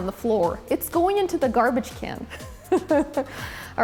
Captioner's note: laughs